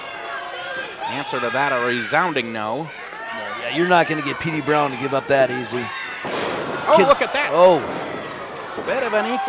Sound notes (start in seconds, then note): 6.2 thud